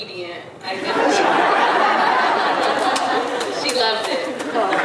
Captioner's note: audience laughing